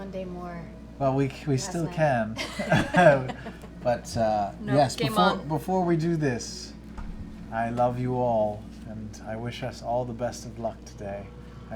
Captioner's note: laughs